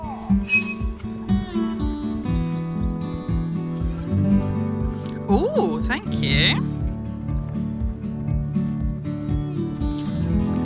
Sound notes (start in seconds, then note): 0.3 gate squeaks